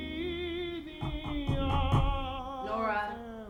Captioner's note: knocking on door